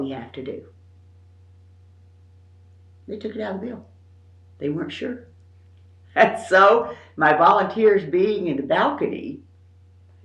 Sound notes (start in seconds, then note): 6.4 laughs